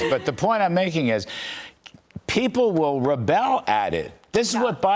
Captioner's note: laughter